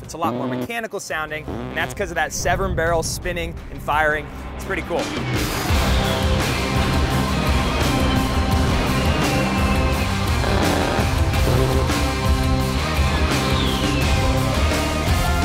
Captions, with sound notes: It's a lot more mechanical sounding, and that's 'cause of that seven-barrel spinning and firing. It's pretty cool. (bold music) (gun buzzing)